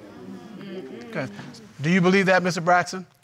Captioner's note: audience exclaming